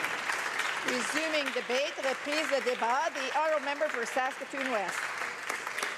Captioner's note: applause